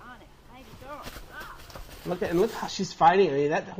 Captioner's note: background chatter